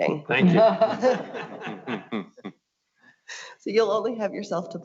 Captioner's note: board members laughing